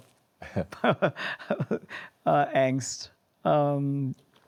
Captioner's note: laughs